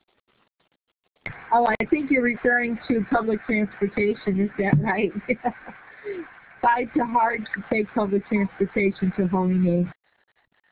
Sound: laughter

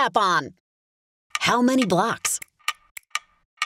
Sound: clock ticking

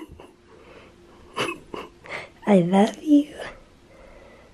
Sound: chuckles

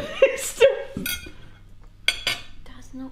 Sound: laughing

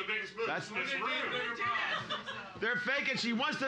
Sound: audience mumbling

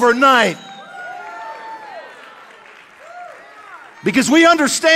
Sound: audience cheering

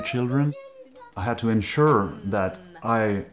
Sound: children chattering

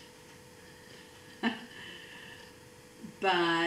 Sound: laughs

